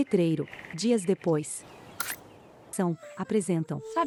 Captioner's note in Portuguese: Pássaros